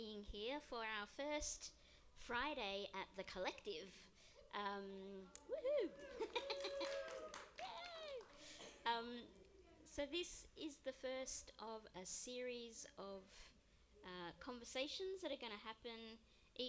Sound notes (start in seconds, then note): 6.0 applause